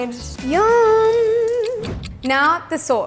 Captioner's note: clock ticks